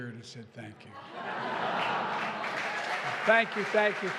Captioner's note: laughter and applause